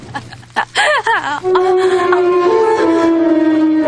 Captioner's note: gasps